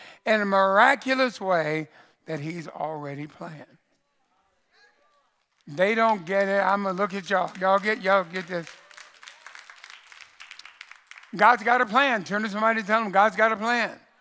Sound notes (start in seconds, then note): 8.7 congregation applauds